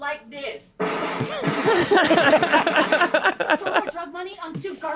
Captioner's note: laughter